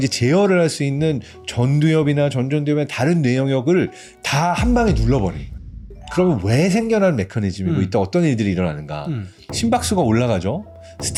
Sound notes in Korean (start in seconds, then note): 4.6 무거운 효과음; 9.4 긴장되는 음악